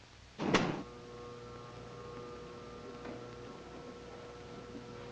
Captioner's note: elevator humming